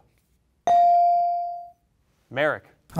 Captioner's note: bell rings